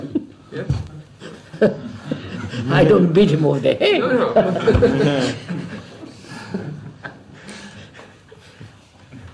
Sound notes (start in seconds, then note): 4.0 laughs